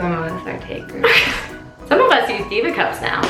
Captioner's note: laughing